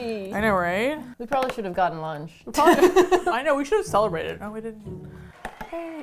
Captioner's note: both laugh; quiet applause